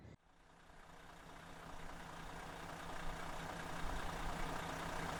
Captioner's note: sound of coach motor idling